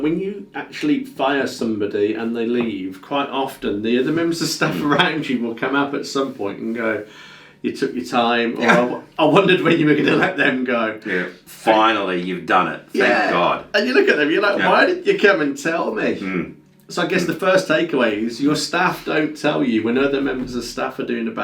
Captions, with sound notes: when you actually fire somebody and they leave, quite often there are other members of stuff around you, will come up at some point and go, "You took your time, - (laughs) I wondered when you were gonna let them go" - Yeah - And... - Finally you've done it, thank God. - .... And you look at them and you're like why did you even come and tell me? - Hm - so I guess the first take away is you see your staff don't tell you when the other members of stuff are doing